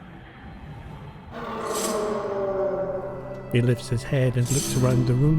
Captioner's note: A growl